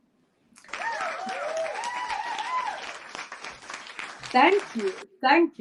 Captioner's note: applause